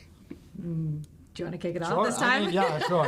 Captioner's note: laughs